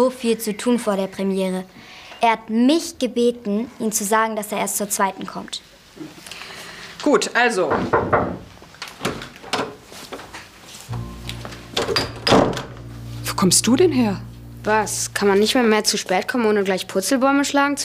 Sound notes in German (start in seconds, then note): 7.7 Es klopft